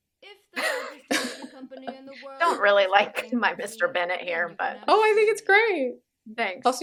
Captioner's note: laughter